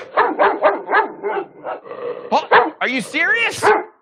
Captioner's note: dogs barking